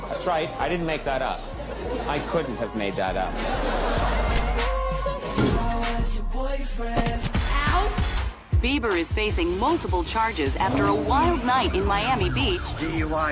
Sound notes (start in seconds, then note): 1.3 audience laughter